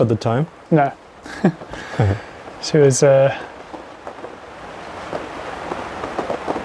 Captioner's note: feet stomping